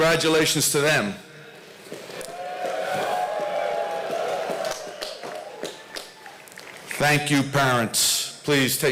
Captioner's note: applause